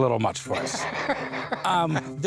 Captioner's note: laughs